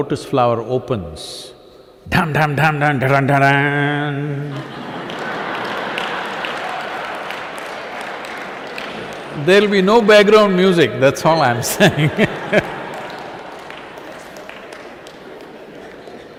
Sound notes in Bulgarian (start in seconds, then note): 7.5 смях